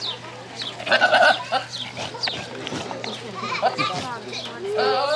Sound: goats bleating; people chattering indistinctly

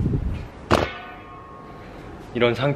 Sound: crashing

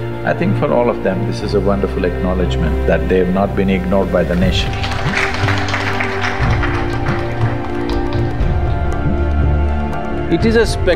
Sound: applause

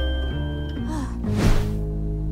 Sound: sighs

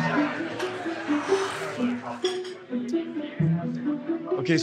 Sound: exhales

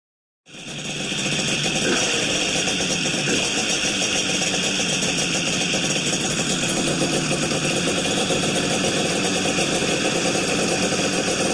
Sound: two-stroke outboard engine with expansion chambers idling and revving

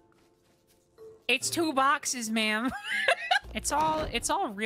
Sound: laughter

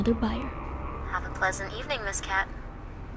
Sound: woman on phone

